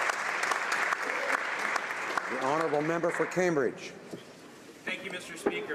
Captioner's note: applause